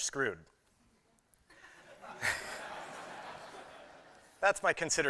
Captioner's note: laughter